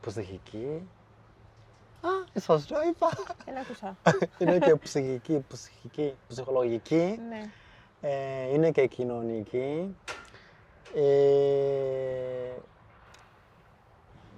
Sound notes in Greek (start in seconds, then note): 2.9 γέλια